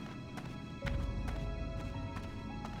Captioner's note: footsteps